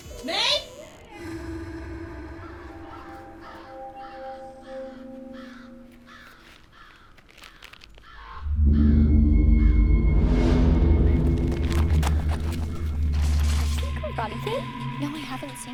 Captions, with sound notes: May! [ominous music playing] [birds cawing] -Have you seen Karate Kid? -No, I haven't seen it.